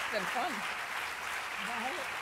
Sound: applause

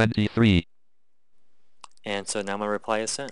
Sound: click

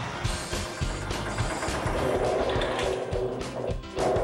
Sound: engine Rumbling

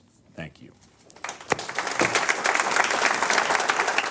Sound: applause

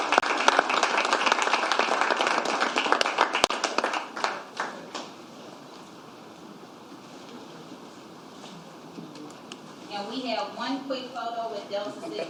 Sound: applause; cheers and applause

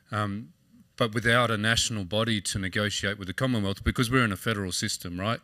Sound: none

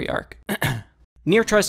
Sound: ahem

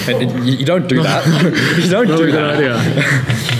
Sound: laughing

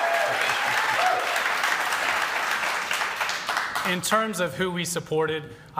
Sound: cheering

